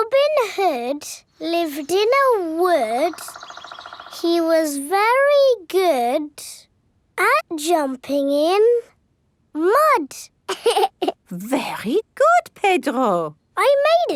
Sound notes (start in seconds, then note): 10.5 laughs